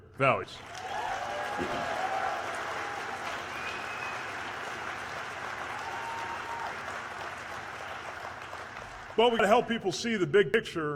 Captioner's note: cheers/applause